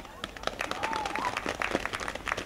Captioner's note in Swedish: Applåder